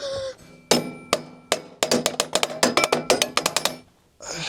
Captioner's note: Klopfgeräusche